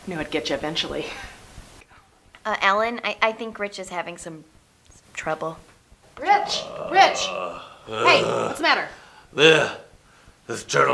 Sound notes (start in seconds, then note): 8.1 groaning